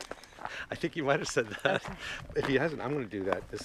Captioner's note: laughs